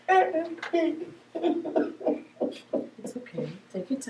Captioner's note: sobbing